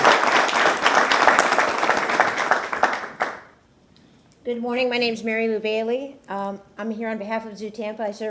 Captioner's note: applause